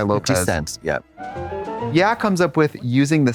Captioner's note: bright chime